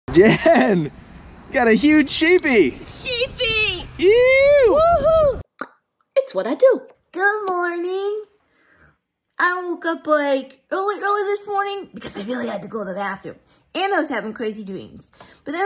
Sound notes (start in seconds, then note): 0.2 laughs; 4.0 cheers; 5.6 tongue click